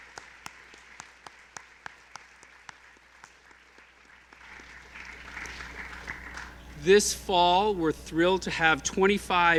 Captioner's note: applause